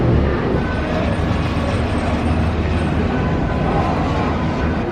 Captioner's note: bus engine growling; cable cars squeaking